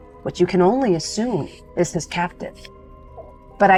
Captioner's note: none